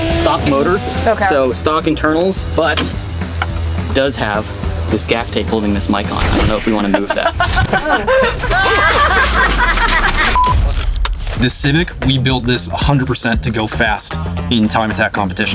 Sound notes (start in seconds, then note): 6.8 laughing; 8.4 cars laughing